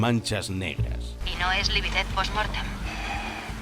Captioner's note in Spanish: radio